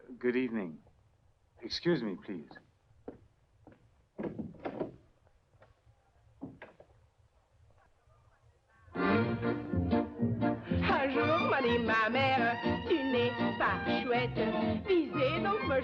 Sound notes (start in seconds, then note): 4.2 door clicking; 8.9 lively music; 11.1 singing in foreign language